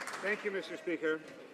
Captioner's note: some Applause